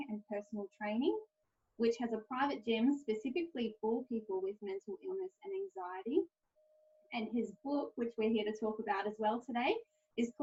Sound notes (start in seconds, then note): none